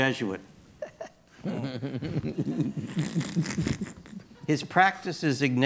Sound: chuckling

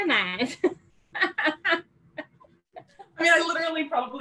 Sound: laughs

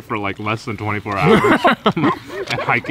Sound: all laugh

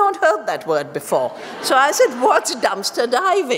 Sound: laughter

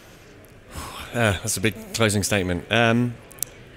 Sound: exhales

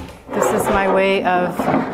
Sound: wood scraping canvas

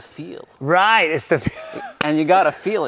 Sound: laughs

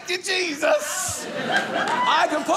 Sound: audience laughing

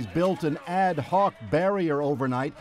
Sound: chants

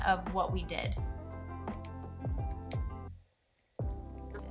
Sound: typing sounds

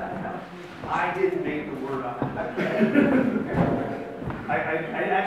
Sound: laughs

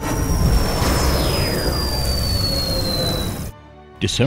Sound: sound Effects

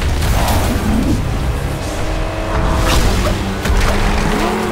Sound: tires screeching; engines revving

